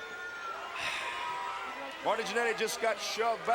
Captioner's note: sighs